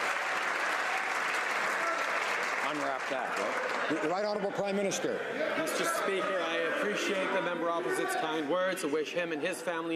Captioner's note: applause